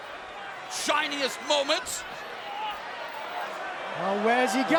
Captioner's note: fans chattering